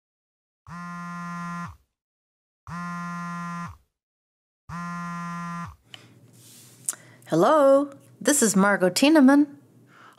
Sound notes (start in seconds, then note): 0.9 cellphone vibrates